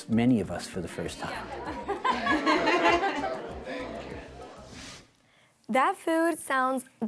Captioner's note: laughing